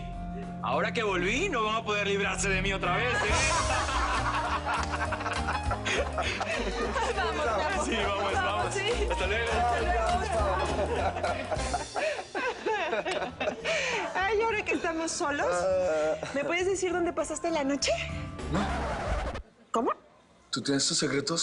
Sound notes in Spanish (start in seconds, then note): 3.2 Risas; 10.6 Risas